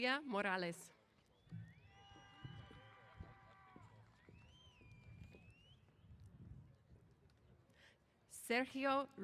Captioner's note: cheers